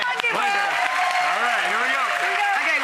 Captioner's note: applause